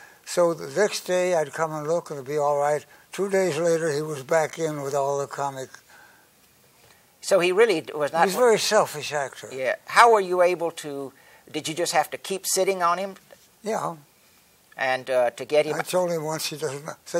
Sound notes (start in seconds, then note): none